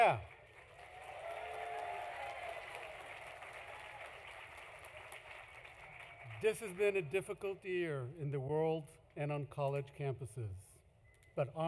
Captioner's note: applause